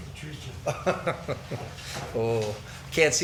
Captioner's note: laughing